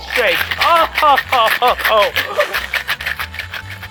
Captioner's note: mixer shaking